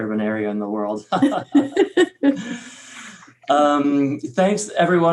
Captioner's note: both laugh